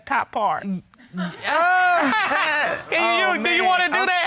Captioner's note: judge laughs